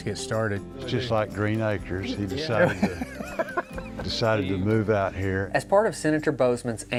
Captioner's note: laughs